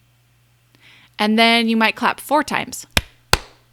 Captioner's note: claps